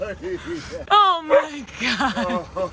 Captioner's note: Camper barking; laughing